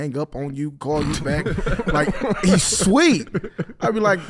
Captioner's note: laughing